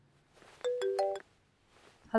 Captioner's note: Phone ringing